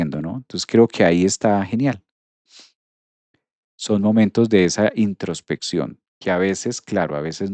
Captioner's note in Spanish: resoplido